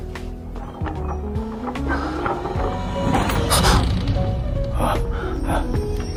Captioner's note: footsteps approach. Someone unlocks the door